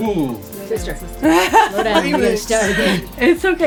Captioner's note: laughter